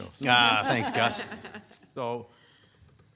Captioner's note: people laughing